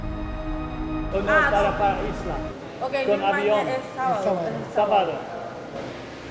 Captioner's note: speaking foreign language